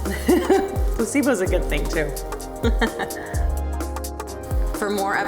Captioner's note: laughs